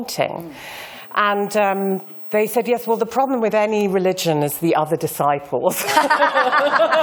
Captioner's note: laughter